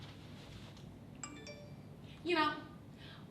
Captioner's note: phone text sound